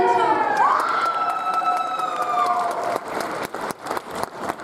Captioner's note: audience applauds